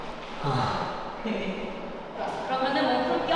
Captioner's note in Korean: Deep sigh..💨